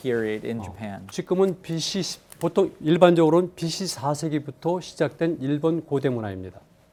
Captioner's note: speaking in Korean